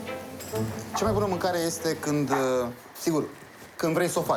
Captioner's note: speaking foreign language